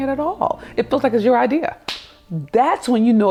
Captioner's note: hand slaps